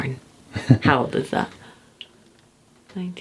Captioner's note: laughing